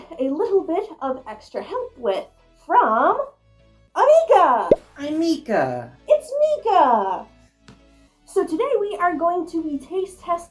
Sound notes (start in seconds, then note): 4.6 pop